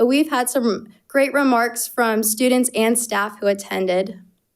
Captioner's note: none